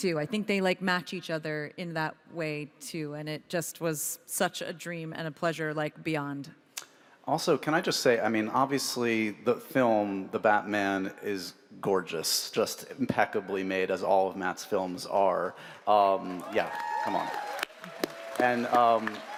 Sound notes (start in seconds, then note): 16.2 panel applauds; 16.2 audience cheers, applauds